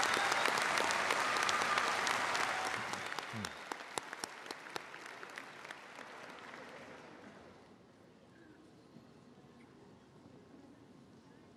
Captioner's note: applause